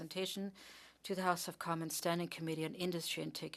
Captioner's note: speaking French